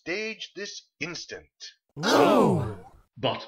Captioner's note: indignantly